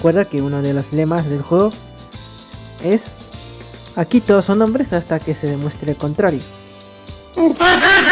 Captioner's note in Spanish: mujajajajaja